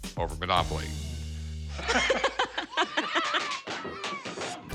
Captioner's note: both laugh